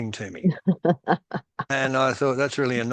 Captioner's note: laughs